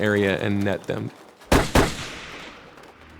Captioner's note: gunshots